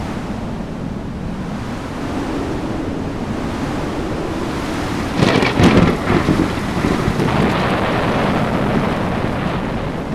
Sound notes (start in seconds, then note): 2.8 strong wind; 4.7 thunder